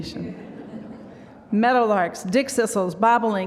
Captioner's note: laughter